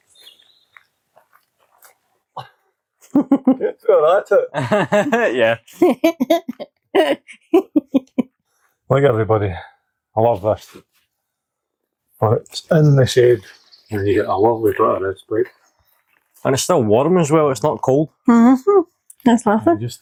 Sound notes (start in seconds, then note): 4.4 laughs